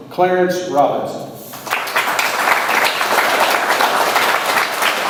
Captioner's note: audience applauds